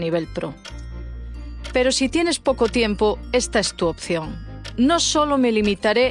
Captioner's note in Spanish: tic tac